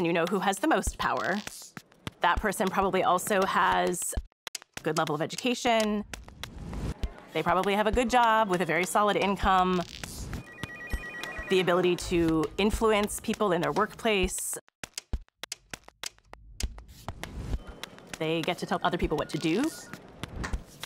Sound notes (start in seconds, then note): 8.5 telephone rings